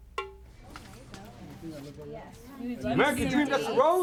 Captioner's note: drum music; group chattering